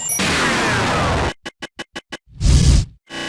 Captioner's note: noise stuttering; distorted vibrato lowering in pitch